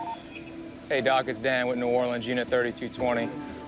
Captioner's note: on phone